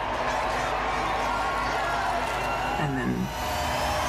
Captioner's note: people cheering